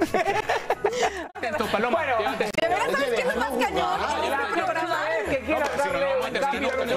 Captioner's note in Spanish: risas